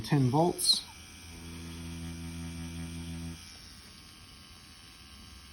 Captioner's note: machine whirring